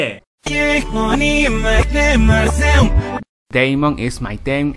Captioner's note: sounds backwards again